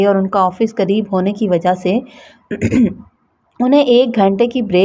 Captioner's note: clears throat